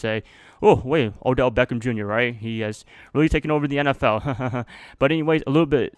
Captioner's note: laugh